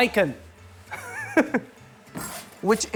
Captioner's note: laughs